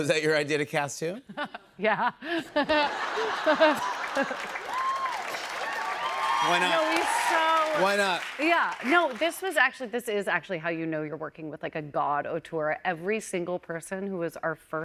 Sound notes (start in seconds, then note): 0.2 laughs; 2.7 laughter, cheers, applause